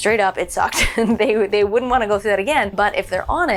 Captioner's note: laughs